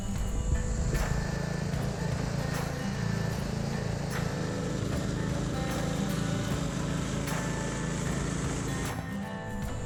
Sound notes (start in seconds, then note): 1.5 machinery whirring; 6.2 upbeat music playing